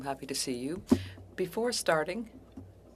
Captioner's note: speaking French